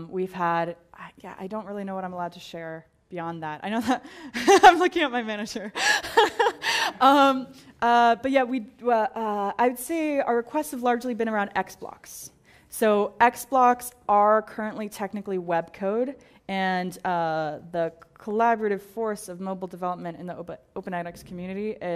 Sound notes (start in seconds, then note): 5.8 laugh